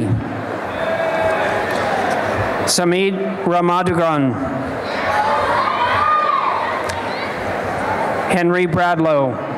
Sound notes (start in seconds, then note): 0.1 applause; 4.5 applause and cheering